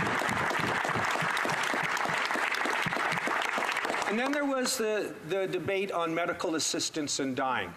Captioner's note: some Applause